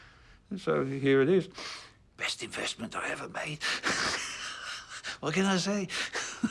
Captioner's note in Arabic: يضحك